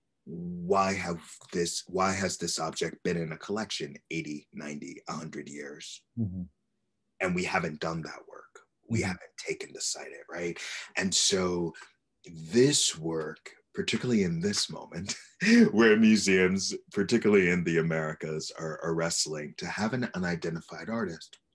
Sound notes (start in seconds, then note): 15.0 laughs